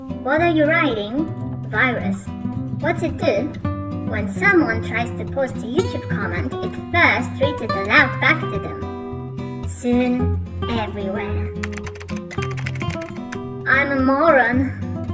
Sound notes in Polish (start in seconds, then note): 11.6 dźwięki klawiatury